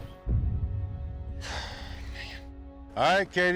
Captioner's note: sighs deeply